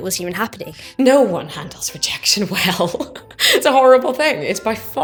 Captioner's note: laughs